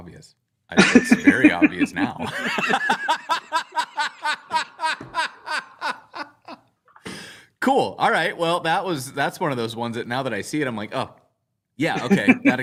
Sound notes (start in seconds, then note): 4.8 laughter